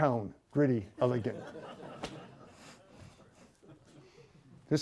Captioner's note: laughter